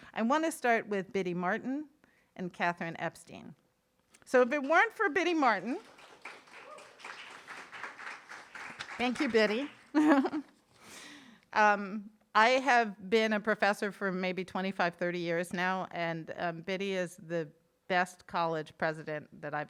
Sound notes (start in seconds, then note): 5.5 audience applauding; 9.8 chuckles